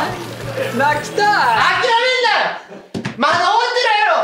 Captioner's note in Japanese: ゲーム終了の音